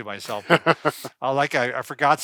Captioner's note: laughing